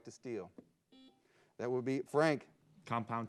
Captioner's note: buzzer beeps